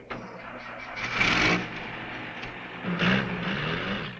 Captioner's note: car engine revving